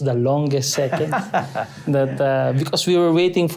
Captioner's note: laughs